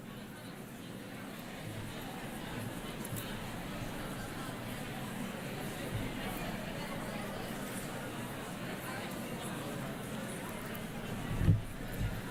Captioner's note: crowd chatting